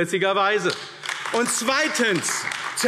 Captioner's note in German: Beifall AfD